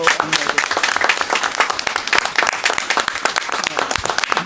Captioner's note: applause